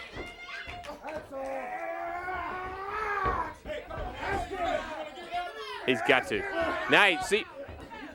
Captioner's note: crowd chatter